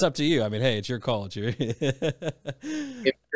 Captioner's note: laughs